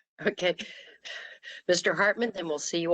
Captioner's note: laughter